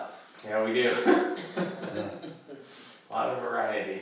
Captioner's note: laughs